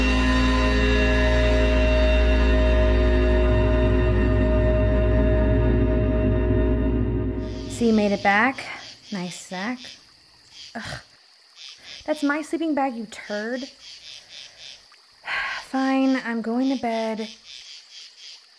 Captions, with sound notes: - So you made it back? Nice, Zack. That's my sleeping bag, you turd. (sighs) Fine, I'm going to bed.